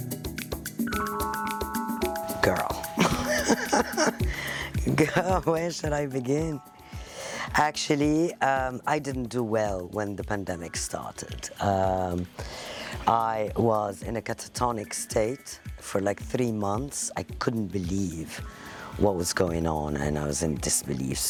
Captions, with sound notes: Girl. (laughing) Girl, where should I begin? Actually, I didn't do well when the pandemic started. I was in a catatonic state for like three months. I couldn't believe what was going on and I was in disbelief.